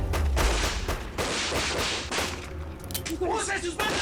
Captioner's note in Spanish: Aumenta el tiroteo